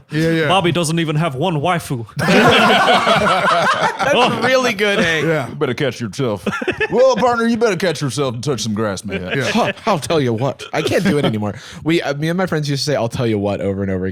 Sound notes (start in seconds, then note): 2.2 all laughing